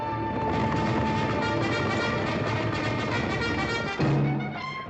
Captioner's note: cavalry bugle; hooves pounding